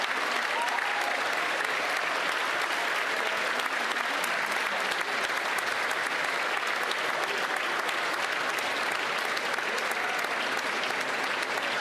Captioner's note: applause